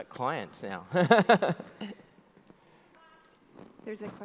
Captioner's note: audience laughs; laughs